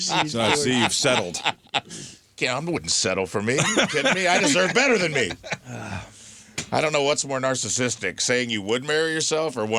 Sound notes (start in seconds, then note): 5.4 laughing